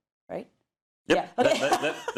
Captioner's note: laugh